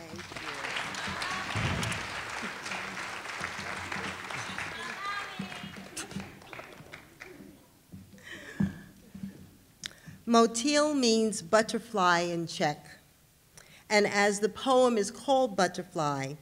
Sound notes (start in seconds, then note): 0.0 audience applauding; 5.9 audience member shouting